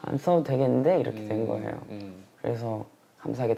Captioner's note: someone else's voice